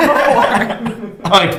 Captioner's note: all laughs